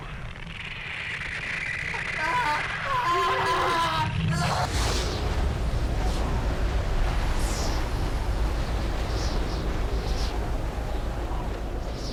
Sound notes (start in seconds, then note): 1.9 Ringo screaming; 6.0 wind howling